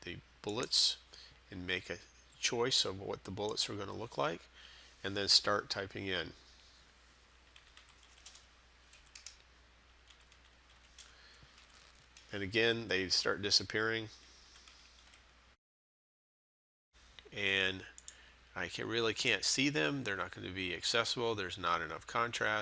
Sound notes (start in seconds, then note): 7.4 sound of typing; 14.5 sound of typing